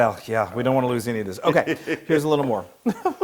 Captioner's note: laugh